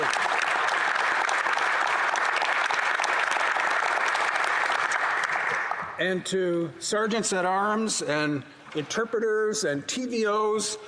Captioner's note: applause